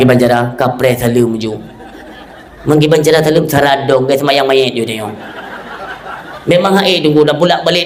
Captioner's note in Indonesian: tertawa